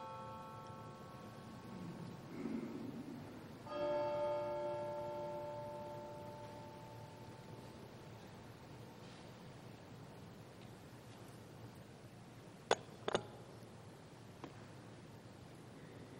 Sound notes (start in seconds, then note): 3.6 bell